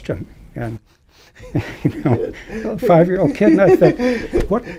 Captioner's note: laughter